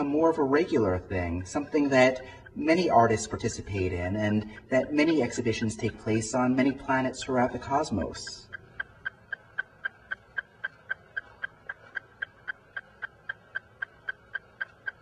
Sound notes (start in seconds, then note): 9.1 ticking sound